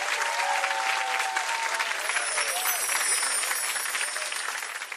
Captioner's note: audience clapping